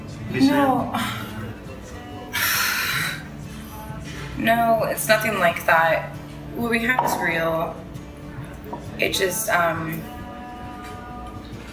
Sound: loud sigh

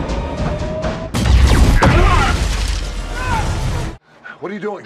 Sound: explosion

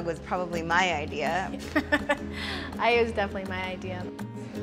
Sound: laughs

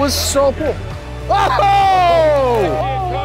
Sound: shouting

